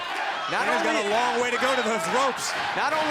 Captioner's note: crowd cheering